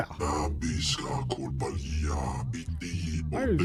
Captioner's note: speaking foreign language